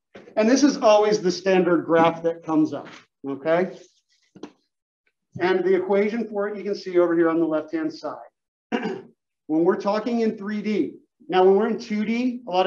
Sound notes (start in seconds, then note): 8.7 cough